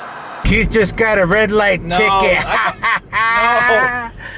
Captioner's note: laughs